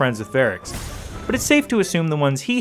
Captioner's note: slap